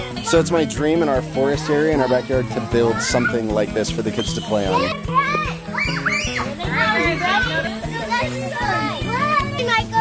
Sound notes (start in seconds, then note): 4.9 kids chatter